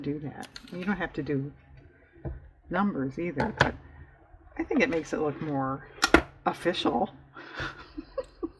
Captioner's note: laughs